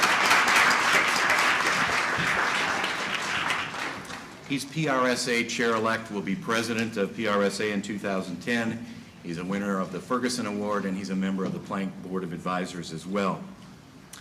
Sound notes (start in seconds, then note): 0.0 applause